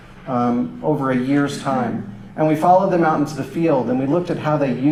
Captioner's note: none